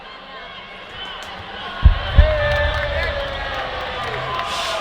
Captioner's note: 박수